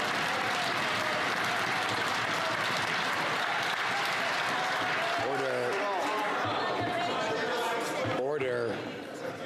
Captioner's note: some Applause